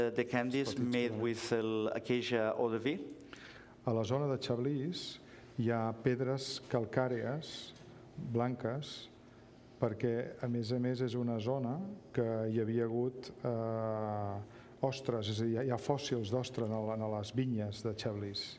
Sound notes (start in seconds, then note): 7.5 speaking catalan